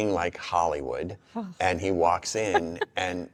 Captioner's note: chuckles